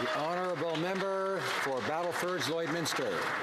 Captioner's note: some Applause